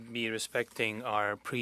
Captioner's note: speaking French